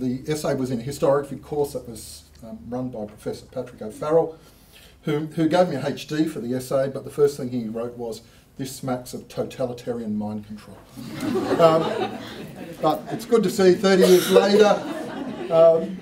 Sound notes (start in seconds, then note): 10.9 laughter